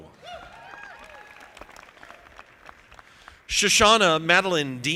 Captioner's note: audience applauding